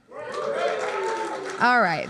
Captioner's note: applause